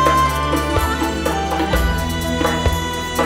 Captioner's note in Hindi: none